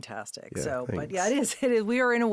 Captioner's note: laughing